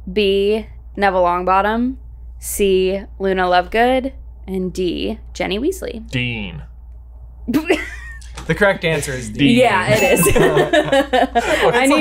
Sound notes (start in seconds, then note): 7.5 laughs; 9.6 laughs